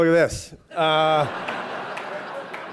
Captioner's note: laughter